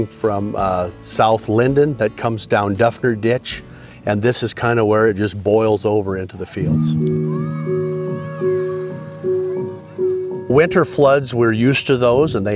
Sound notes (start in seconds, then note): 6.6 gentle music; 7.2 child shouting